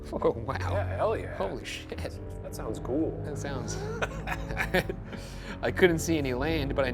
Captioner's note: laughs